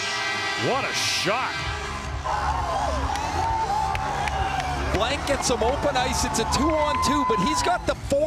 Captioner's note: air sirens